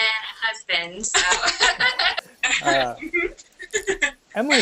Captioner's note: laughter